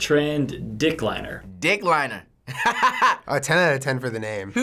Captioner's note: laughing